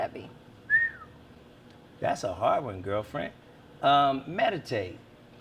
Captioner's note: whistles